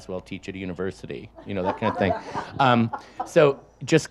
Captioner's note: audience laughs